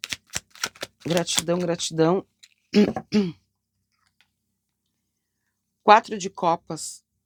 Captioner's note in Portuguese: limpando a garganta